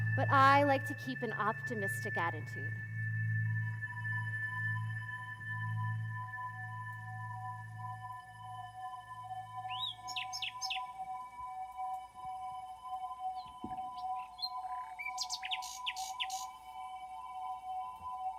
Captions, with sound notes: But I like to keep an optimistic attitude. (ethereal electronic music) (birds chirping)